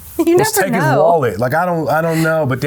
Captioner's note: laughing